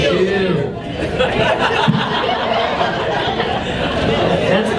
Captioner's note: audience laughs